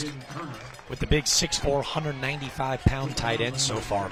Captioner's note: applause